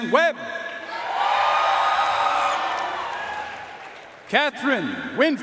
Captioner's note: audience cheering and applauding